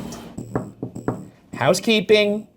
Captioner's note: door knocking